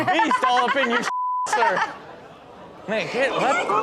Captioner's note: Chanel laughing